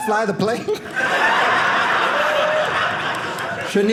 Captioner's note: audience laughing